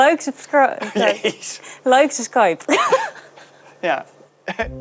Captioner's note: laughs